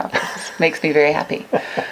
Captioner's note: laughs